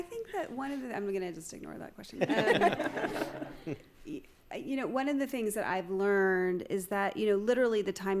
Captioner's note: laughter